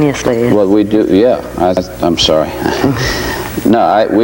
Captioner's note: chuckles